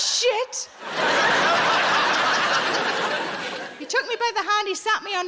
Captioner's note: audience laughing